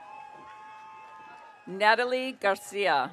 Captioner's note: audience cheering